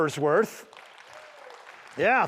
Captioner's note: applause